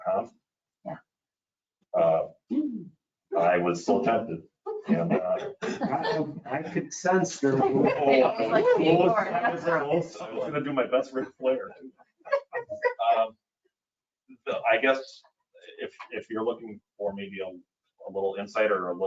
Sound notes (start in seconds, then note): 3.4 humming; 4.8 chuckling; 8.5 people chattering; 12.3 laughing